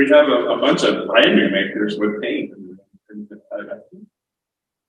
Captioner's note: audio breaks